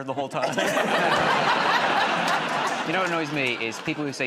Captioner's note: laughter